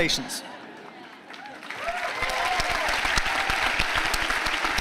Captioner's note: applause